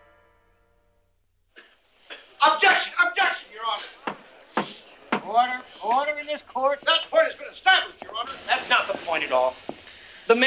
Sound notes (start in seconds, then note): 5.1 gavel banging